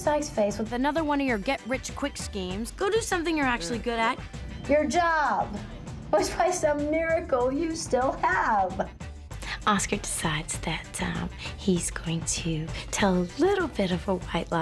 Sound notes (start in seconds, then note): none